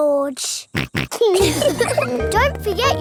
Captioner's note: snorts; laughs